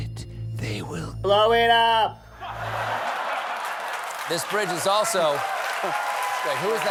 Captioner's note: laughter